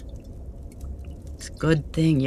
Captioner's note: water sounds